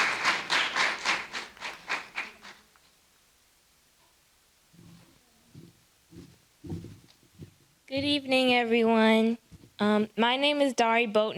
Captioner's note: applause